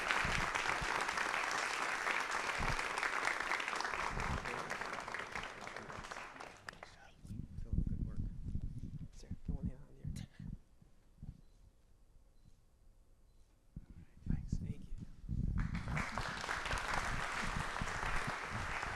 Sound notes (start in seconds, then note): 6.9 applause